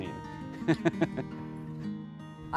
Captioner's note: chuckles